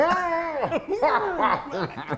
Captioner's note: laugh